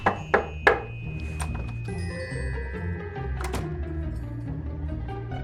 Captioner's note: person knocks on door